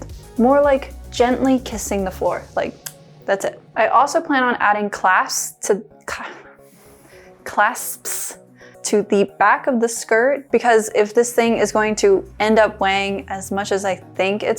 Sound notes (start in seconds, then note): 2.7 kiss sound